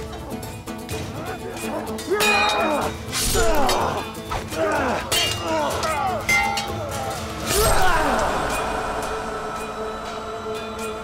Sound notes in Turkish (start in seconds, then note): 2.0 Dövüş sesleri; 9.9 Müzik - Hareketli